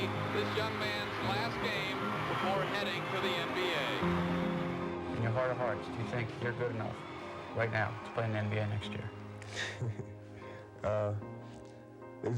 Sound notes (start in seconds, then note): 9.4 laughs